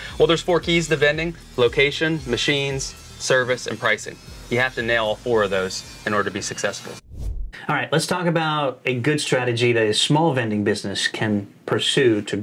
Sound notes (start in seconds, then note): 7.0 air swooshing